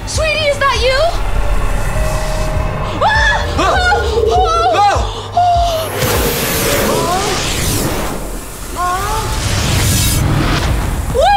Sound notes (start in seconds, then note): 2.9 screaming